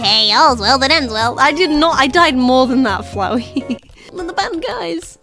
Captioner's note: laughs